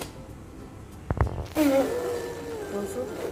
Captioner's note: kids playing